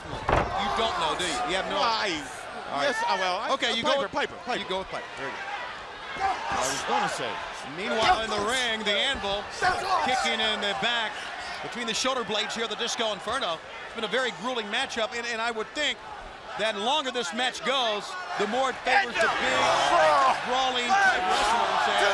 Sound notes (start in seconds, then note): 9.5 crowd cheering